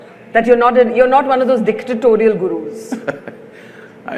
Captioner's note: Sadhguru laughs